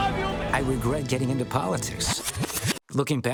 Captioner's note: video whirring